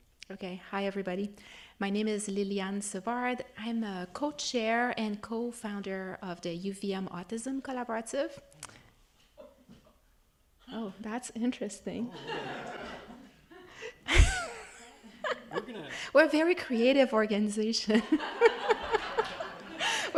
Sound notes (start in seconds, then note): 12.0 attendees laughing; 19.2 laughing